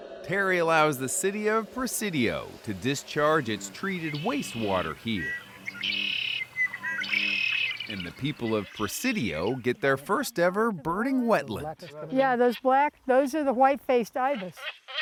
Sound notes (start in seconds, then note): 5.7 birds chirp